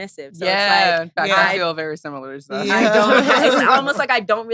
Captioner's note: laughs